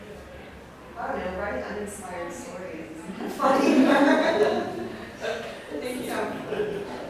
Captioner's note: laughs